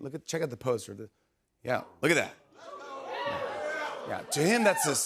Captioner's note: audience cheers